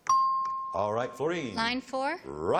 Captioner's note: ping